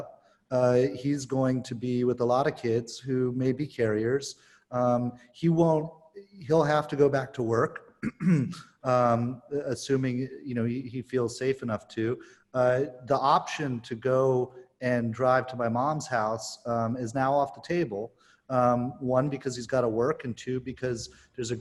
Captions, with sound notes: he's going to be with a lot of kids who may be carriers. He'll have to go back to work (clearing throat) assuming he feels safe enough to. The option to go and drive to my mom's house is now off the table. One because he's got to work and two,